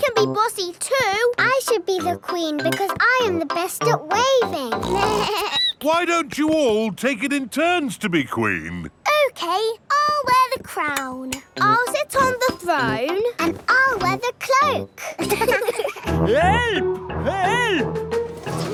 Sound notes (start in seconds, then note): 4.7 snorts; 4.8 bleats; 15.0 laughing